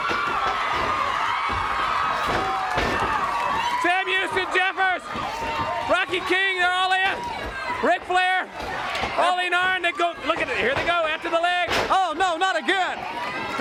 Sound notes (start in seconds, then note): 9.6 crowd chatter